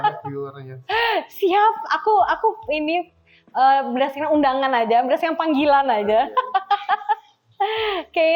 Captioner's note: laughs